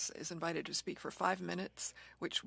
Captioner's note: speaking French